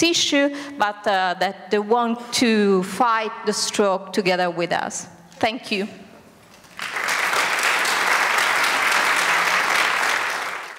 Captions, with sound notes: but they want to fight the stroke together with us. Thank you. (applause)